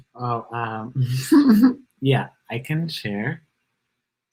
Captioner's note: laughs